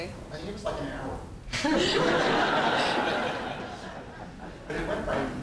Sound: audience laughing

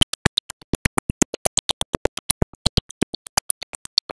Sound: none

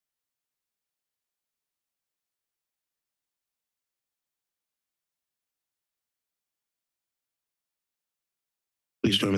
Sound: silence

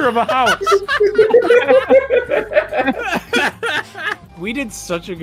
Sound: laughter

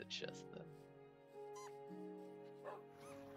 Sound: fox noise

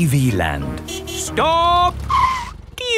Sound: tires screeching

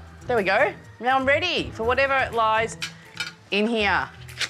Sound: none

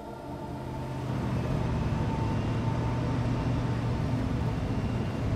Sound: car motor humming

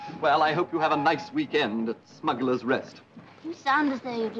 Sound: flatly

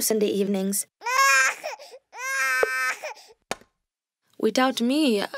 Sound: crying

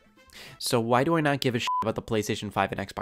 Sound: beep

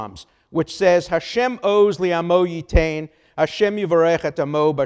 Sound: speaks Hebrew

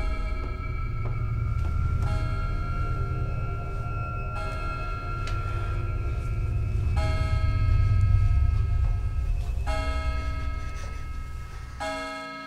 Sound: sound of door opening; clock tolling continues

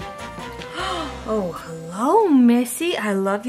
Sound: gasps

